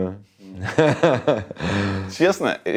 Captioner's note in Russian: Смеётся